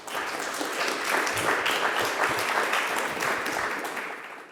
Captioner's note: audience clapping